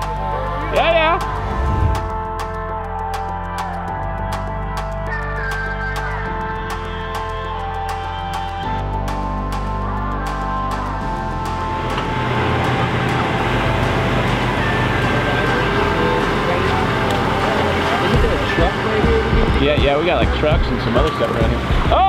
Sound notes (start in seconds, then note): 3.4 upbeat music; 12.5 machine whirring